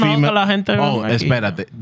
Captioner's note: speaking Spanish